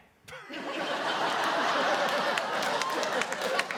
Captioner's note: laughter